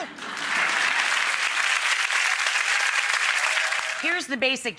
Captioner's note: audience applauds